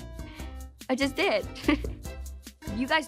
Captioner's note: giggles